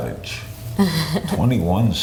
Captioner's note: laughs